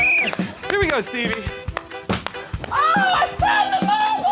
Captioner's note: blows whistle